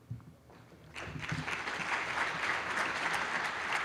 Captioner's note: applause